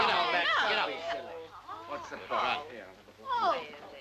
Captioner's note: people complaining